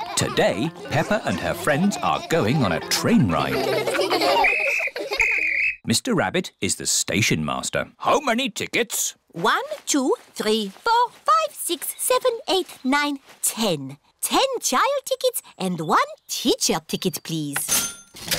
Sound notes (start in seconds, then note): 4.4 blows whistle; 17.7 cash register dings